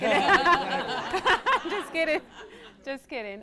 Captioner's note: laughs